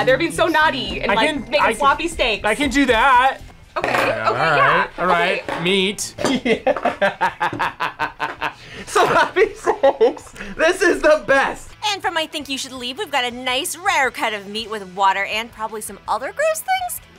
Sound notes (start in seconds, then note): 6.2 laughs